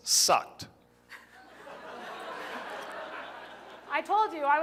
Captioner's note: laughter